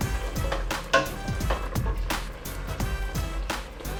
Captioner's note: pot clanging